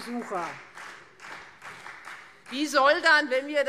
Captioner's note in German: Beifall Freie Demokraten